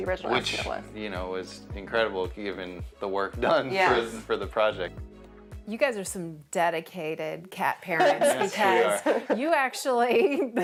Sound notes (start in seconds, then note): 7.9 laughs